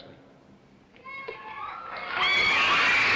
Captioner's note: cheering